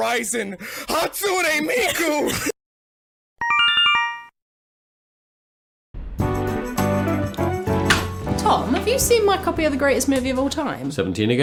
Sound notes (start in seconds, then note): 3.4 Yume Nikki Instructions sound effect; 6.0 intro music